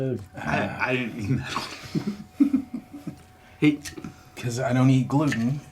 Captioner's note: laughing